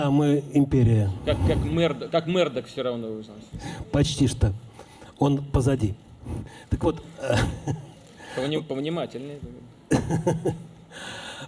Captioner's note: laughter